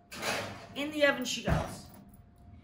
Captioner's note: oven closes